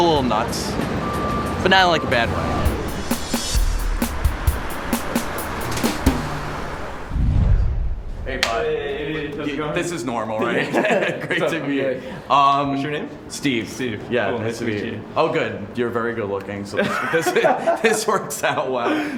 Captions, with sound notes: I'm a little nuts. But not in, like, a bad way. Hey! How's it going? This is normal, right? Great to meet you. [Laughing] - What's your name? - Steve. Nice to meet you. Oh good, you're very good-looking, so this works out well.